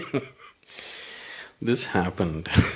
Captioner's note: laughs